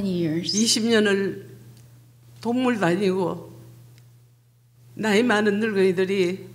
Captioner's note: speaking foreign language